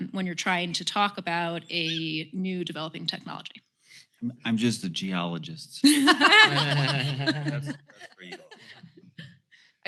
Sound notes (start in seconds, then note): 5.8 laughter